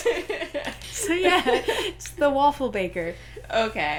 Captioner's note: laughter; laughing